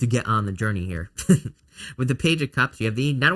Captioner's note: chuckles